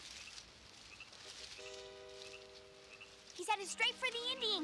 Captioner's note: frogs croaking